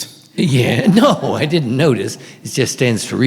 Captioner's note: laughing